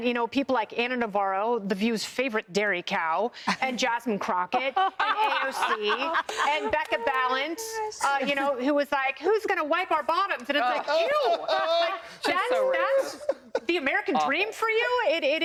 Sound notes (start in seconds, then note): 10.5 laughter